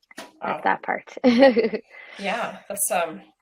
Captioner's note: laughs